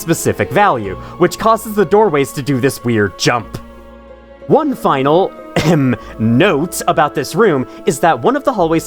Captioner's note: ahem